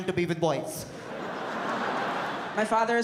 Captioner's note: audience laughs